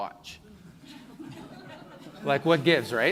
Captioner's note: laughing